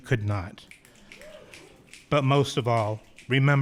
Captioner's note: audience clicking